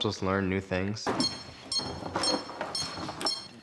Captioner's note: beeping